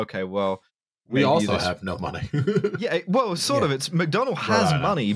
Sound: chuckles

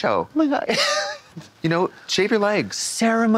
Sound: Katya chuckles

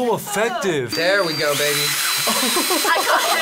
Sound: drill whirring

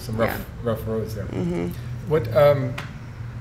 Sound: hums in agreement

